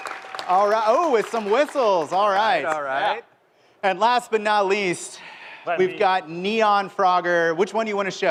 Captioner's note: applause